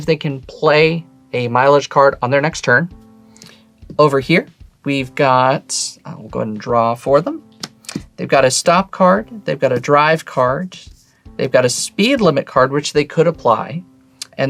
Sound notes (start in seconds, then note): 7.6 card slaps